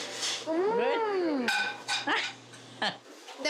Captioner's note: laughs